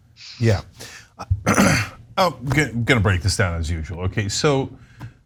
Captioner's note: cough